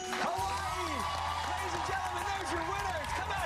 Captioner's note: cheers and applause